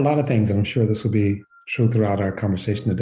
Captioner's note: someone whistling